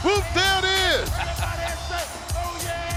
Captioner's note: laughing